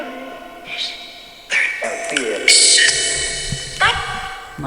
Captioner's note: robotic voice